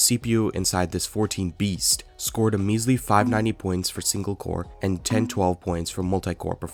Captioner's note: sarcasm